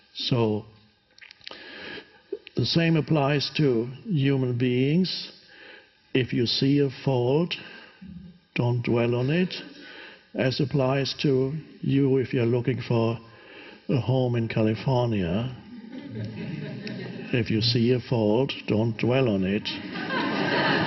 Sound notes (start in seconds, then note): 15.6 audience laughs; 19.6 audience laughs; 19.7 Eckhart laughs